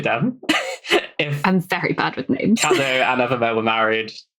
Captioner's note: laughing